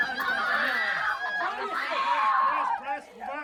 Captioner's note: Gritos